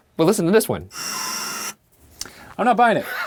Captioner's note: faint clanking